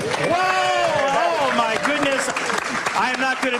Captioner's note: audience clapping